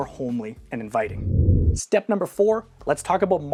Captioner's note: air whooshing